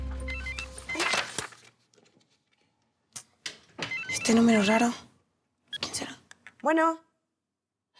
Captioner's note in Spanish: suena el teléfono